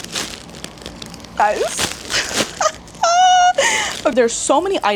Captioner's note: laughs